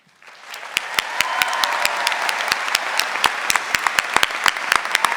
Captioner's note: audience cheering and applauding